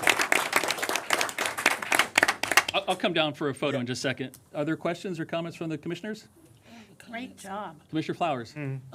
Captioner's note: applause